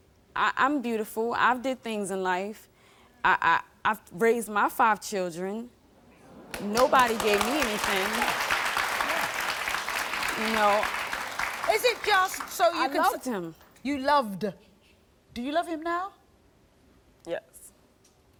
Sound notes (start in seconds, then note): 8.9 audience applauding